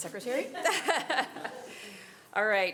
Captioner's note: all laughing